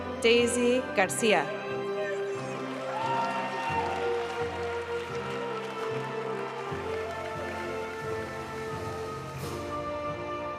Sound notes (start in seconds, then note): 2.3 audience cheering and applauding; 5.7 graduation music